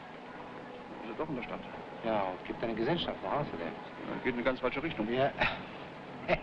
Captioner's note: officers speaking foreign language; officer chuckling